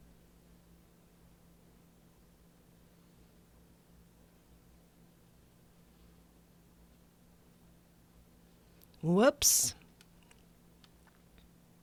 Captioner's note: silence